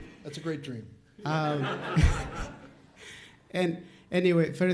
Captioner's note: audience laughs